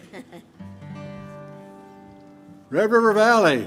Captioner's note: chuckles; guitar strums